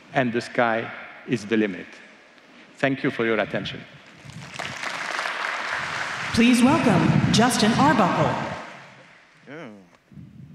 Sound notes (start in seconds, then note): 7.7 applause